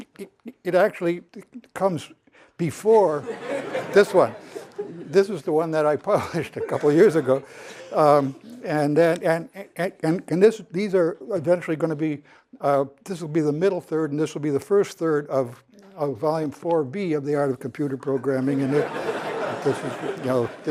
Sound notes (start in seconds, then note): 3.2 laughter; 18.1 laughter